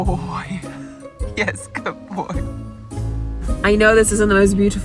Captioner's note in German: lacht